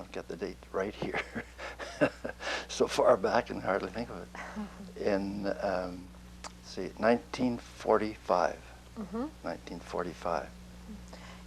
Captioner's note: laughs